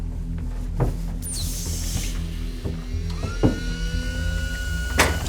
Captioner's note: door hisses